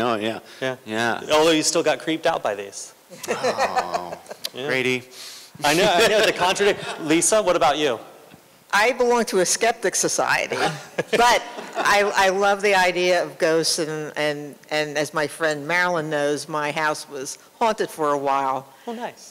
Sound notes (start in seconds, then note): 3.1 laughter; 5.7 laughter; 10.5 laughter